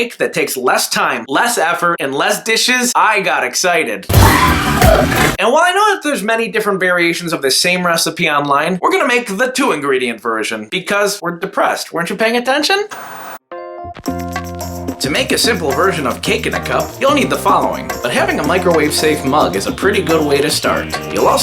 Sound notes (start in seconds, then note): 4.1 upbeat music; 4.2 tires screeching; 13.7 soft upbeat music